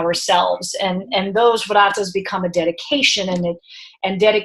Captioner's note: speaking in foreign language